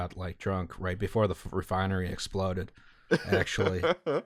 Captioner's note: laughter